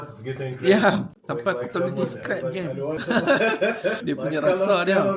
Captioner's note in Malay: ketawa